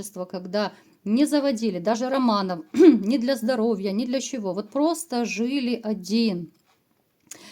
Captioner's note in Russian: откашливается